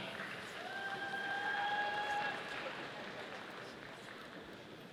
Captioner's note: audience applauding